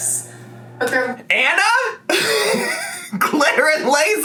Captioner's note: laughs